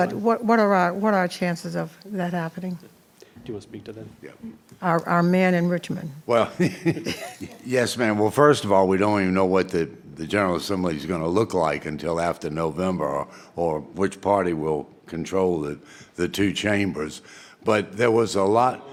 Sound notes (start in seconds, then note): 6.6 laughs